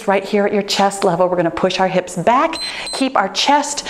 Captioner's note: timer beeps